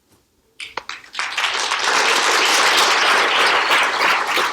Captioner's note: applause